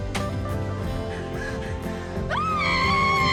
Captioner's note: excitedly hyperventilating; yells